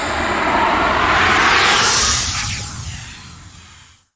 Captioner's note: air whooshing